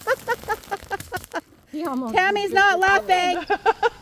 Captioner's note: people laughing